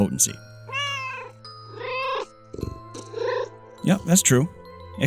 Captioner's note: meow, meow!